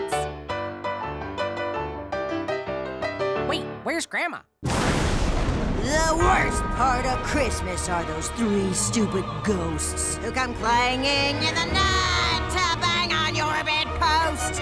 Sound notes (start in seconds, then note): 0.0 piano music playing; 4.6 thunder